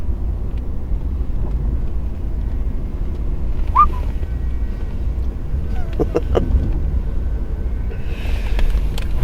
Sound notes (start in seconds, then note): 3.7 whistling; 5.8 chuckling